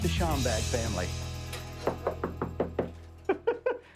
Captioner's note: door knocking; laughing